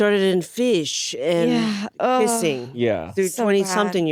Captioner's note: groans